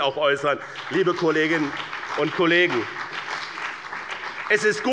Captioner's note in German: Beifall bei dem BÜNDNIS 90/DIE GRÜNEN und der CDU